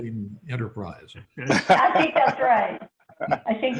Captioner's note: everyone laughing